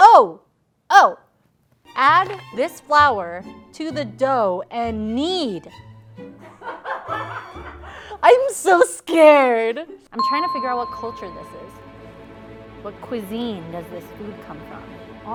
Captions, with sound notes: - Oh, Oh. Add this flour to the dough and kneed. (laughing) I am so scared. I'm trying to figure out what culture this is. what cuisine does this food come from?